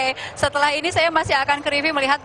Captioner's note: non-english speech